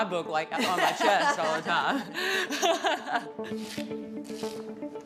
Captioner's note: both laughing